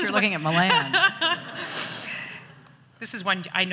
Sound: audience laughs

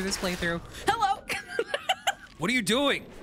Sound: laughing

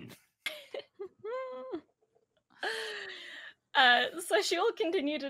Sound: giggling

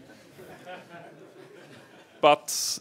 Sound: laughter

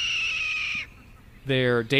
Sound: red-tailed Hawk call

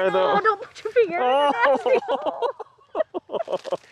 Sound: laughs

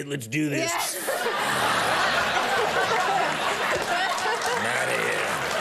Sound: audience laughing

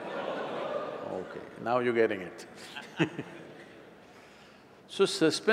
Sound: laughs

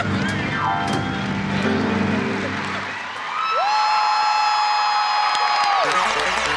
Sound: applause

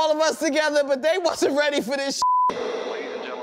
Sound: beep

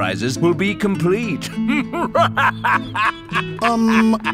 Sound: evil laughter

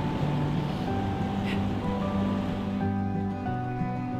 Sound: laughs

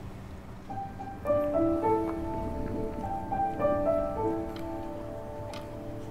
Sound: gentle music; clock ticks

